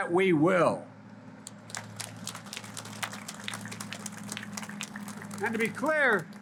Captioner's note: applause